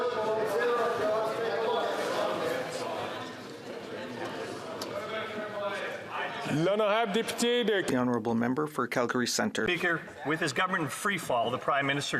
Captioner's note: chatter